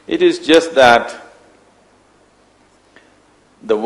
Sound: none

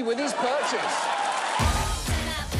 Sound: audience laughs

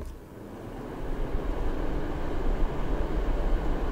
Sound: heater roaring

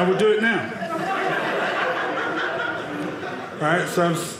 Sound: audience laughing

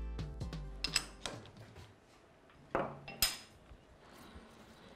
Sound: hiphop music; metals clanking

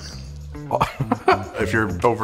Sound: laughs

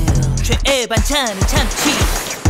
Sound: CHIMMY: Slurp!

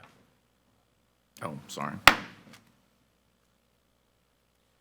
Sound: gavel thuds

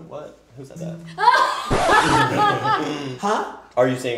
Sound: laughs

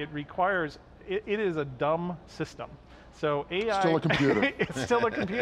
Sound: laughs

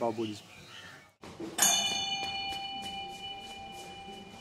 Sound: bell ringing

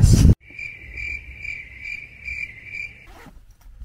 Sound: cricket sound

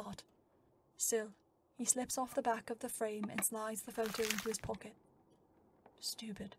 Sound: photo crinkling

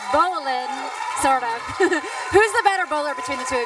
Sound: chuckles

